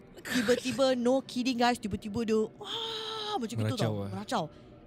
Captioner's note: screams